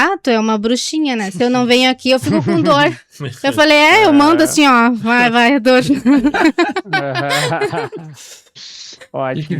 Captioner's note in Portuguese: risadas